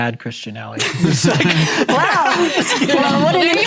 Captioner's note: laughing